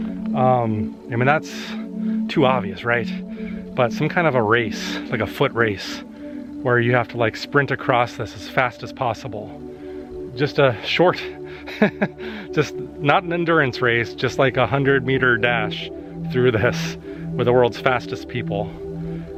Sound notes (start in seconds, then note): 11.6 laughter